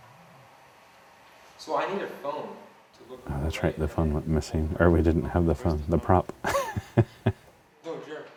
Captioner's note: laugh